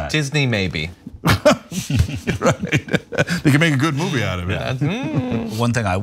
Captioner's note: laugh